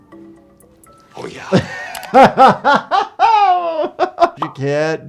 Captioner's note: laughing